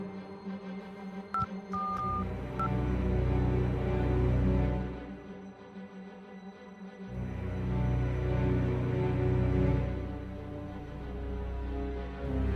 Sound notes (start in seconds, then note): 1.3 phone beeping; 7.6 suspenseful orchestral music continues